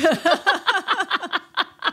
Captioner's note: laughing